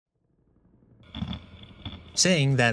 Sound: grinding

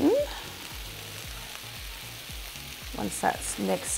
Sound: pan sizzles

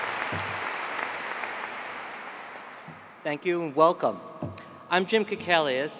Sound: applause

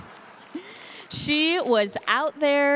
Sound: audience laughing

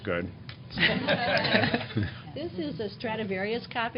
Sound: laughter

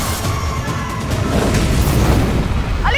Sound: whooshing sound

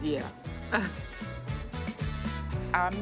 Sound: laughs

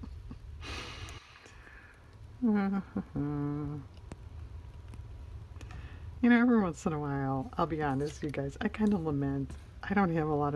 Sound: laughs

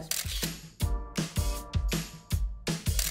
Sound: camera click; funky music; camera click

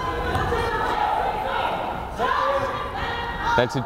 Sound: players shouting

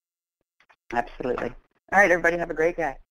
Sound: voiceover

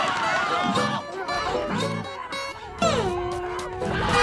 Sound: screaming; muffled screaming; screaming

